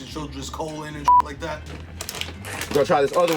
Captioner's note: beep